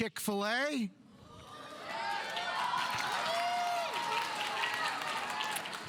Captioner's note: audience applauding